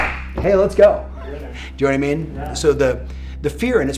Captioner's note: laughs